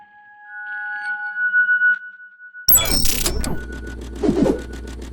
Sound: logo whooshing

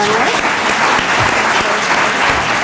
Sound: applause

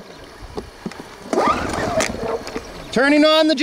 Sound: cord whistles

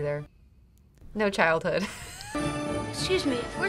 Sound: laughs

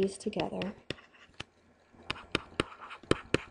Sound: scribbling

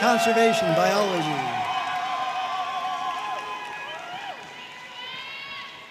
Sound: audience cheering and applauding

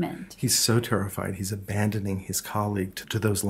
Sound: voiceover

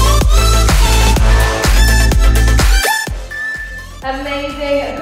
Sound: beeping

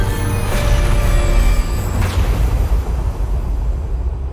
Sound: spooky intro music; thunder crashing

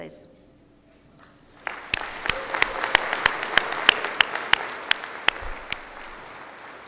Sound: applause

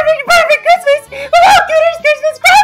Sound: breathe in

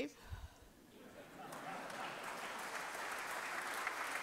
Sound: applause

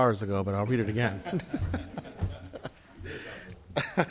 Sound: group laughs

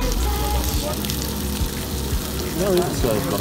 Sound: sizzling

